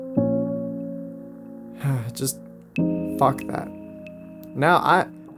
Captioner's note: sighs